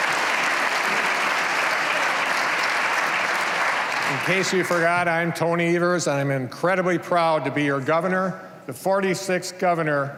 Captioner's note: cheers and applause